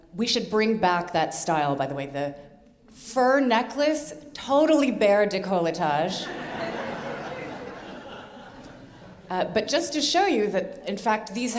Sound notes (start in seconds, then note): 6.2 audience laughing